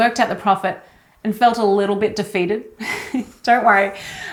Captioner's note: chuckles